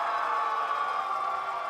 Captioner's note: cheers and applause